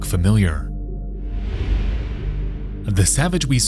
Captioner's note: air whooshing